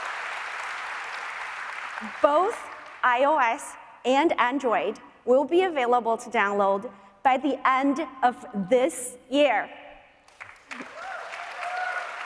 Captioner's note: applause